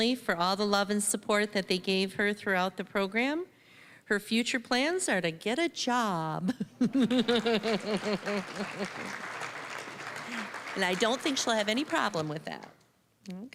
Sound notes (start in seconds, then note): 6.9 audience laughing; 7.2 applause